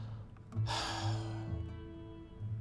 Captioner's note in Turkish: Nefes sesi